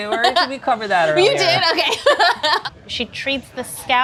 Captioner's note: laughs